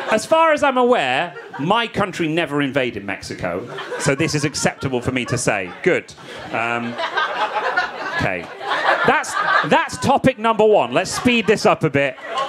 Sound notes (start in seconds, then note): 9.1 audience laughing